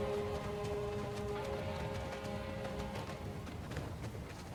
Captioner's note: train whistle sounds